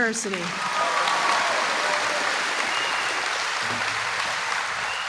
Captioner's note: applause